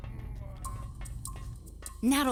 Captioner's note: moaning